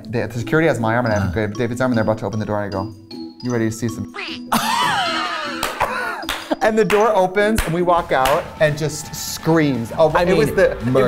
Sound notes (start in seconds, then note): 4.5 Katya laughing and clapping